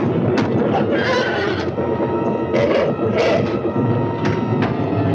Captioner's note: door banging; thunder crashing; horse neighing and grunting; door banging